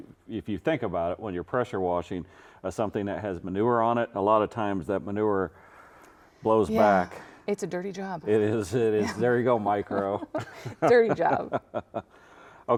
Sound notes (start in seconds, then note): 9.0 chuckles